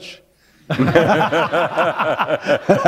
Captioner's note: laughter